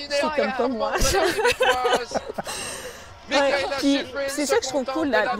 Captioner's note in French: rires